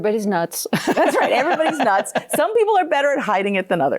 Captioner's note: laughing